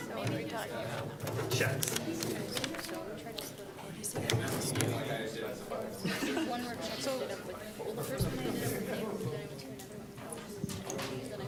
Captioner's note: general chatter